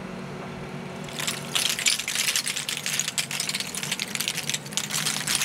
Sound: oyster shells clattering

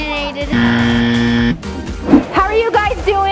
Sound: buzzer

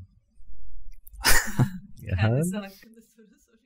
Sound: nervous chuckling

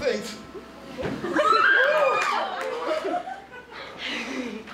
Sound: audience screaming

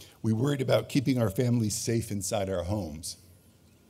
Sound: none

